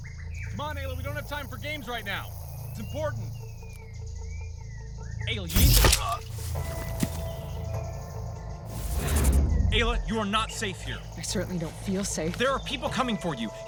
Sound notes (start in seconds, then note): 5.5 gunshot; 8.3 digital zapping